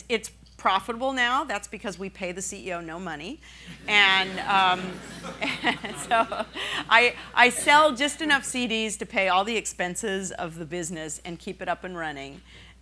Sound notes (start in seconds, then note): 4.1 laughing